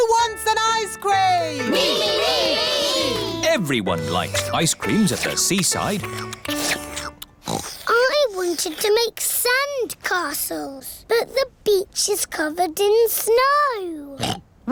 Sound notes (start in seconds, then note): 5.9 slurping; 7.4 oinks